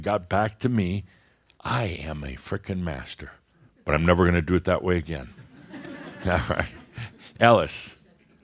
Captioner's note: a few chuckles